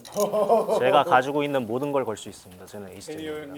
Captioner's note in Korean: 웃음